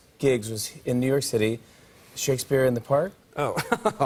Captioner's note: laughs